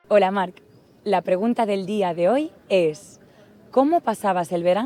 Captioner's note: speaks in foreign language